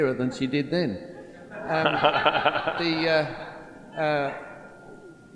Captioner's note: laughter